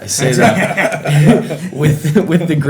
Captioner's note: people laughing